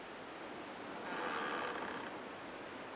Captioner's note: tree creaks